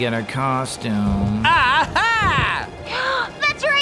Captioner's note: Xenon gasps